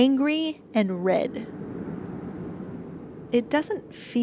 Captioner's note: cosmic winds blowing